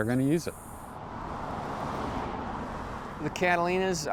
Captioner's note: car engines revving